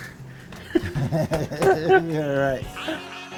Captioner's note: laughing